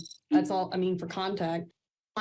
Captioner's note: none